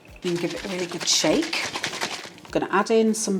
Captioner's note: liquid sloshing